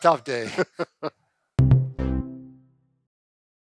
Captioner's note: chuckles